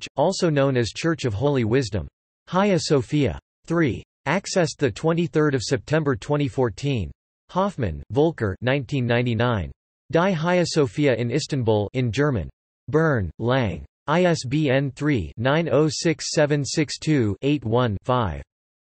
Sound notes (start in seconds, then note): 12.6 in German